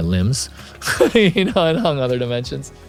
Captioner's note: laugh